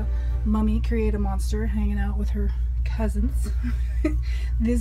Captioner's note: chuckles